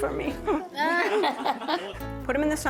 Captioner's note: laughter